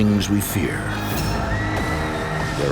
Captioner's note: screaming